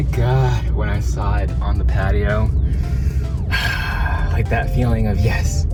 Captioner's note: sighing